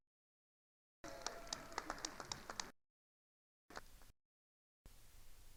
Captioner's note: attendees applauding